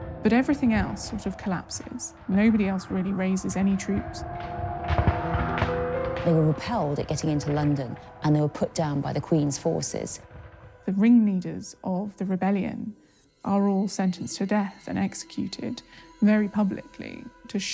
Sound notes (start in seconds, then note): 4.7 banging sounds